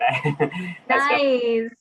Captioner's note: laughing